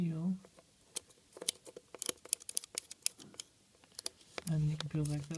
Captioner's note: plastic peeling